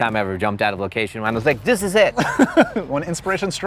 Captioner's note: laughs